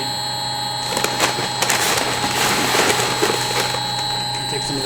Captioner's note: bag rustling